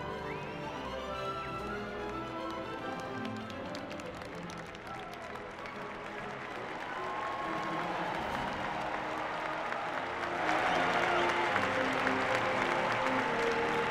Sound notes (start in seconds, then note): 2.8 applause